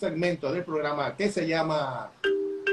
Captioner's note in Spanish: Ring Phone Ring Tone Sound Effect